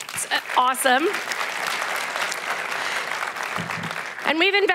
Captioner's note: applause